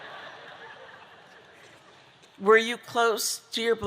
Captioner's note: audience laughing